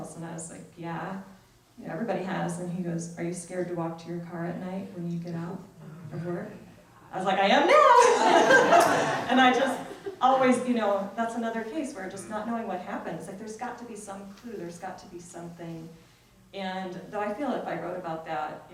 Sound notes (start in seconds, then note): 7.7 laughs